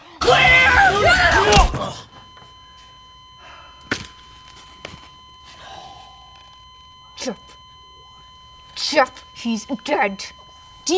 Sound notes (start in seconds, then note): 1.4 heart rate monitor flat lining